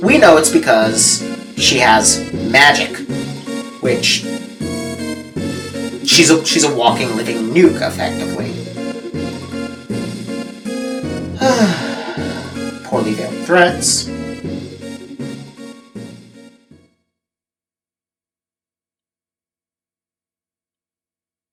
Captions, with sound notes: Of course, we know it's because she has magic. She's a walking, living nuke, effectively. [sighs] Poorly veiled threats...